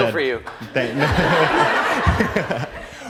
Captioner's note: laughter